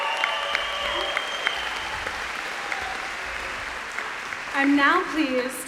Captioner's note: applause